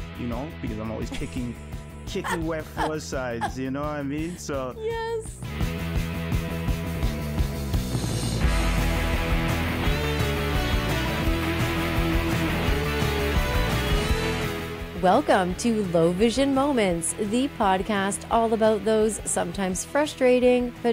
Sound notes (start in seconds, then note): 4.4 laughs; 4.9 upbeat rock music